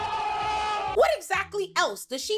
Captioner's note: screaming